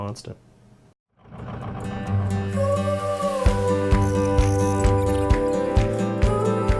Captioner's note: truck engine revving; vibrant music